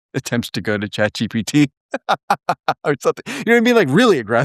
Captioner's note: laugh